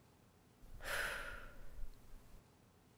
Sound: exhaling

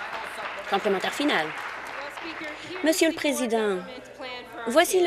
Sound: applause

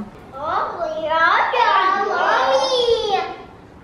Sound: blabbers

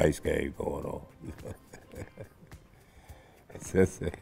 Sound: laughs

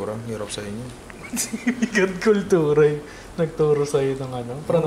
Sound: laughs

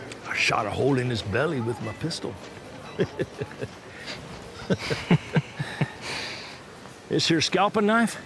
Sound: chuckles

